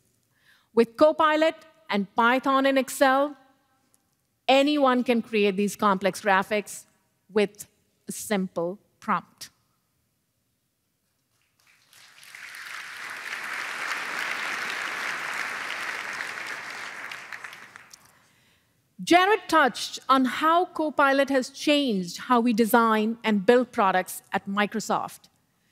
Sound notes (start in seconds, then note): 11.2 applause